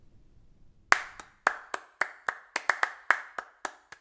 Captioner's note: clapping